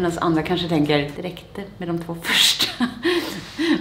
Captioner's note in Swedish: skrattar